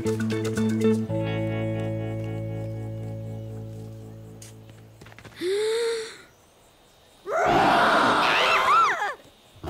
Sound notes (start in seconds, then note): 5.3 inhales; 7.2 frightened screaming